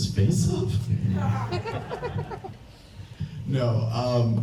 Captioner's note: audience laughs